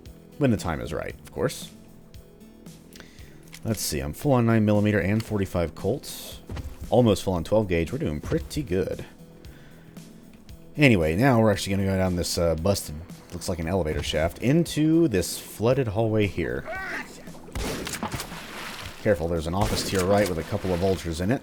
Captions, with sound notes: When the time is right, of course. Let's see, I'm full on 9mm and .45 Colt, almost full on 12 Gauge; we're doing pretty good! Anyway, now we're actually gonna go down this uh, busted, looks like an elevator shaft, into this flooded hallway here. "Hey!" "Gotcha!" *BOOM* Careful, there's an office to your right *BOOM* with a couple of Vultures in it,